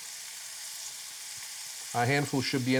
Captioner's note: food sizzles in pan